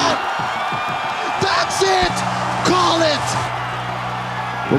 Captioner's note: crowd cheering, applauding